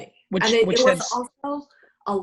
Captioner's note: stuttering